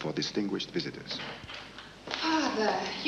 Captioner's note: door opens